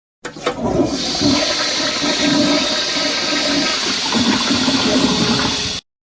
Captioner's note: flush